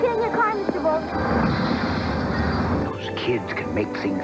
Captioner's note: crash